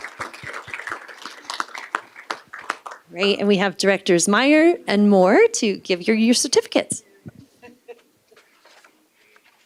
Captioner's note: applause